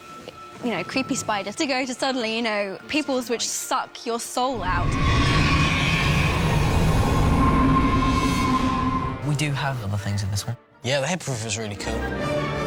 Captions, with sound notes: ...creepy spiders, to go to, suddenly, peoples which suck your soul out. [DEMENTOR HOWLING] -We do have other things in this one. -The Hippogriff is really cool.